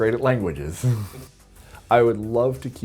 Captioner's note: chuckles